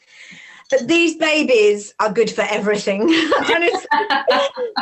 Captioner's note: laughs